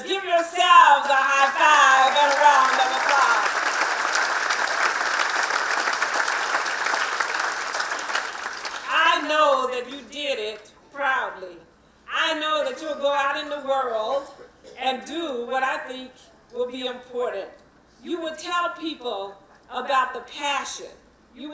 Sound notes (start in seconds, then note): 3.5 applause